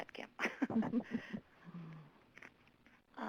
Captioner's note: presenters laughing